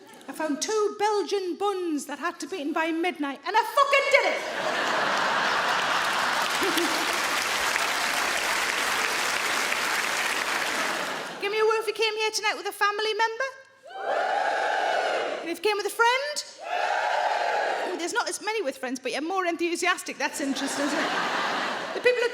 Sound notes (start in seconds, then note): 4.3 audience laughing; 7.3 audience clapping; 13.9 audience woos; 16.6 audience woos